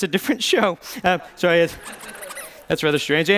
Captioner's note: squeaking